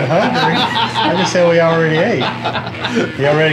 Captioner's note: laughs